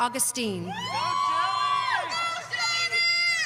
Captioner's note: audience cheering